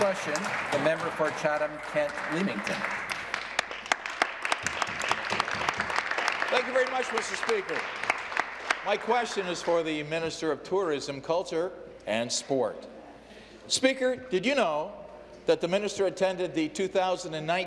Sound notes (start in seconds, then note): 1.5 some Applause; 7.9 some Applause